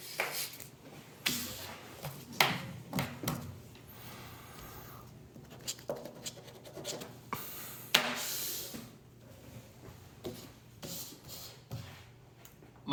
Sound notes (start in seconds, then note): 5.5 pen scraping; 7.9 paper rustling; 7.9 pen banging